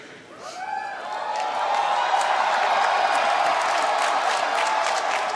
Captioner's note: cheering